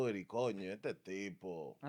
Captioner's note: speaking In Foreign Language